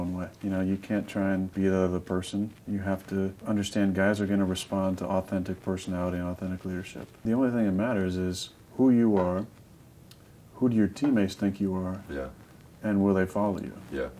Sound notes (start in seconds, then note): none